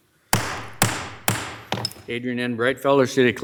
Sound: gavel bamming

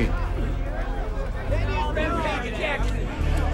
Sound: people chattering

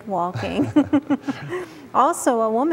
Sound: giggling

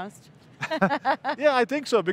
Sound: laughs

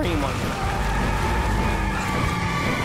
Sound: tires screeching; suspenseful music

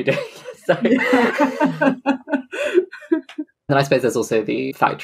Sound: laughs

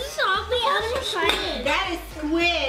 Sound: chattering

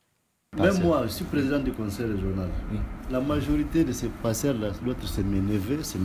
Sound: speaks in a foreign language

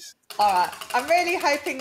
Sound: wheel ticking

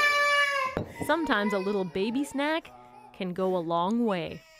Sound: baby crying

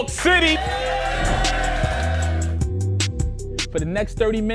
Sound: crowd cheers

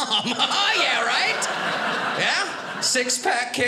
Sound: audience laughing

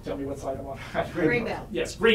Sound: laughs

